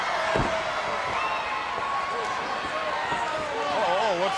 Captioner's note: crowd chattering